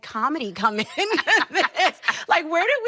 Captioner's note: both laughing